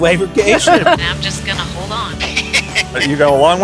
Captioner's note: pilot chuckling